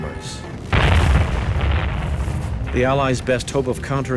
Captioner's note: bomb exploding